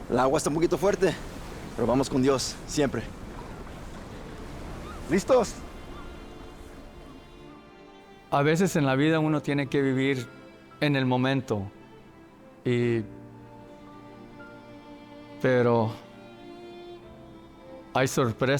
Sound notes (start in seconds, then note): 0.2 Miguel speaks in Spanish; 5.4 Miguel continues speaking in Spanish; 8.4 Alonso speaks in Spanish